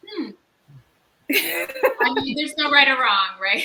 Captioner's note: laughs